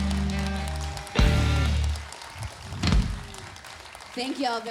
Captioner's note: audience claps